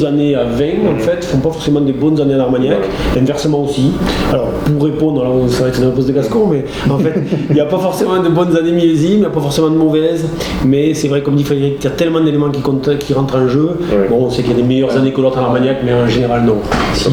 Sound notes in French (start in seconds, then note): 6.8 rire